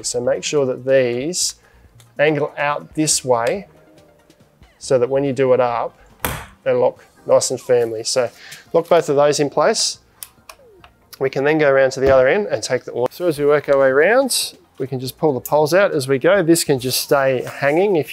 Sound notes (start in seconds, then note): 6.3 latch clicks